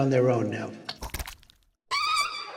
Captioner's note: plopping sounds; squeaky fart